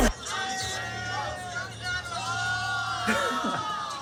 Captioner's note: hip hop; crowd chatter & cheering; laughs